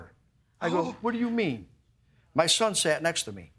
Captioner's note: gasps